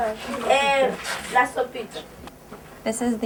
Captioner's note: woman speaking foreign language